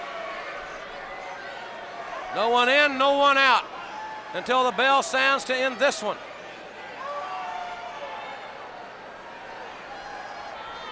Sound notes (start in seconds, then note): 7.3 crowd cheering